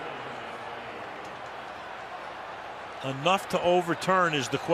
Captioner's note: pa announcement